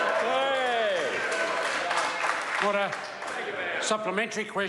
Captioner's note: members applaud